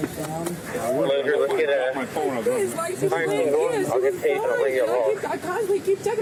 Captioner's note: radio chatter